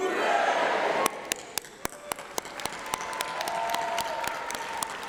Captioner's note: applause